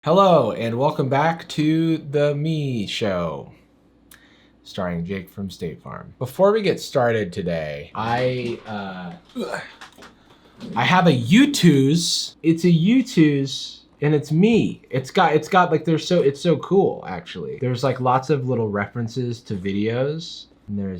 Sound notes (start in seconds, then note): 9.3 grunts